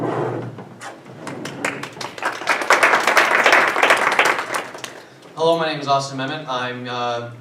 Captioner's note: applause